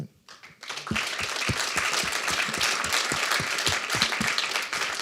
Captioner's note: applause